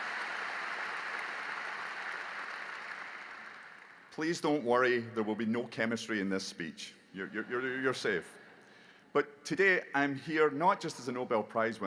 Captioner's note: applause